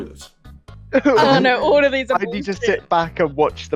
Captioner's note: laughter